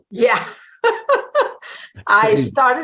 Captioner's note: chuckling